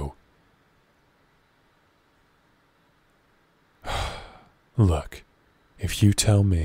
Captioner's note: sigh